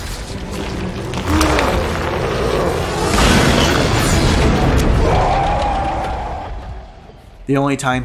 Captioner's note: smashing